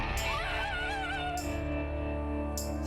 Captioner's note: screaming